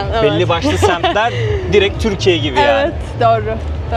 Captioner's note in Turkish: kahkaha